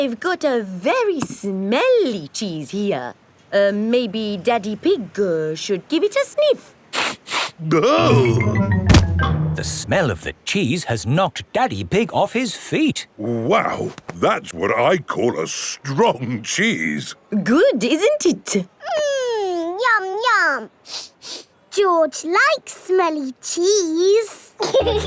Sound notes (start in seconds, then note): 7.1 sniffs and groans; 20.8 sniffs